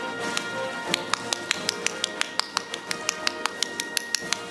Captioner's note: audience applauding